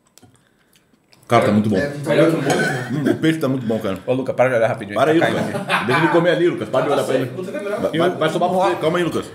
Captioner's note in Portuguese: risos